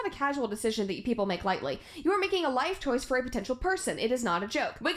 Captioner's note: none